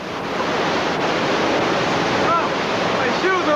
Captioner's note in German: Das Wasser rauscht weiter